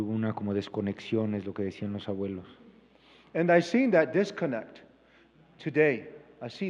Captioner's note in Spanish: Expositor habla en inglés